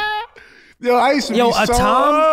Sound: laughing

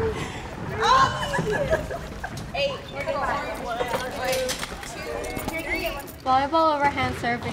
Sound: students giggling

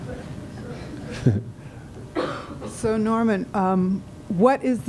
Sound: laughter

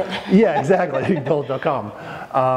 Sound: chuckling

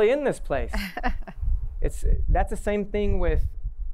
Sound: laughter

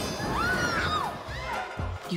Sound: screams

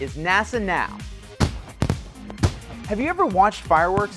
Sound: sounds of Fireworks

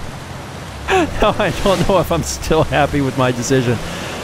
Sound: laughing

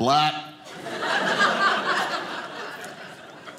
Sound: audience laughing

